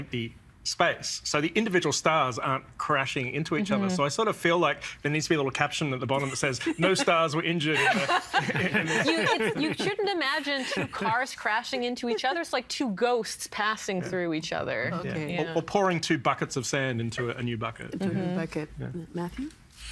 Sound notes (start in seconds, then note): 7.7 laughing